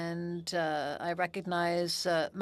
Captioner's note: speaking French